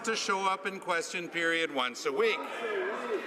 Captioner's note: some Applause